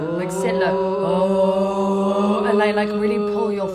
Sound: humming

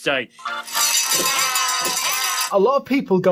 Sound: bell ringing

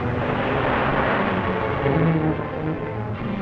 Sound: motor revving

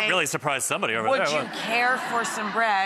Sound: laughing

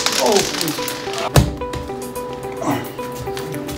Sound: candies spill

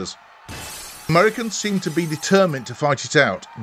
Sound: sound of breaking windows

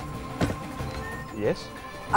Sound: door opens

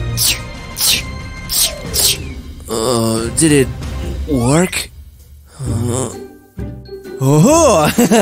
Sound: sneezing

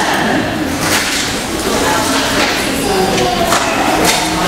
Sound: audience chatter

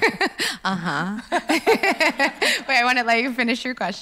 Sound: laughs

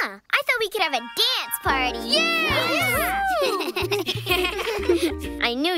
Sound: kids cheer and laugh

